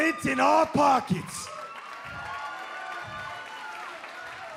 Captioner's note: cheers and applause